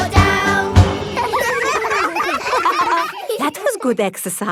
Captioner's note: all giggling